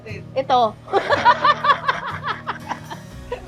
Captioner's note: laughs